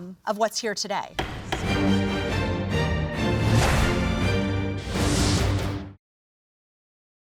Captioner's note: gavel pounding; bright upbeat music